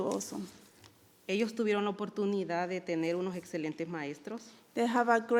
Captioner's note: speaking in foreign language